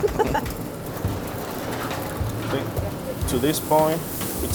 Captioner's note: both laugh